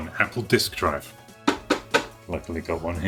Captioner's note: tapping Sound